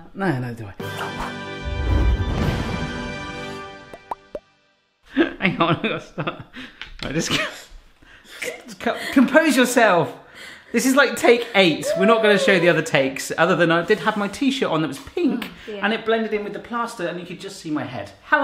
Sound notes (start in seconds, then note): 0.8 powerful music; 5.2 laughing